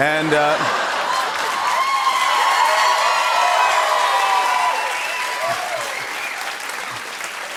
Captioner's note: laughter; cheers and applause